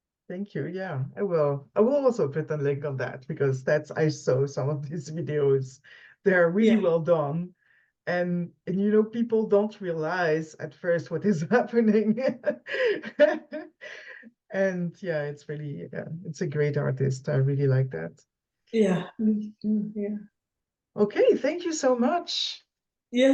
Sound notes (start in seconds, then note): 11.3 laughs